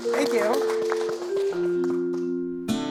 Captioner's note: applause